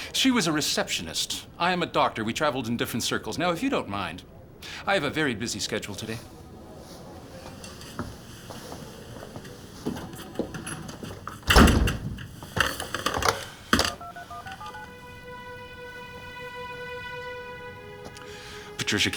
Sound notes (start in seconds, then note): 13.7 phone dialing; 14.7 ominous orchestral music